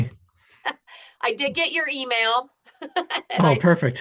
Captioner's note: laughs